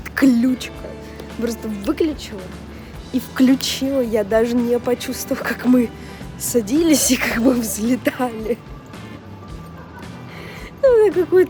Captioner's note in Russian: смех